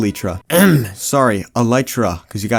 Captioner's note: ahem